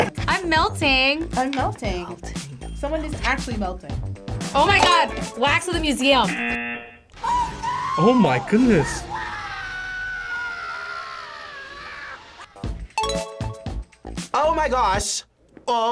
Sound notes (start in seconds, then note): 6.1 klaxon sounds; 7.2 woman screaming; 11.9 person screaming; 13.0 bell dings